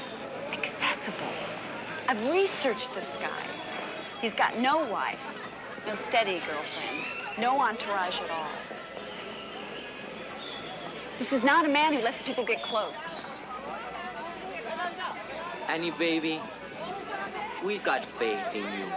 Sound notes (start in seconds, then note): 8.9 indistinct chatter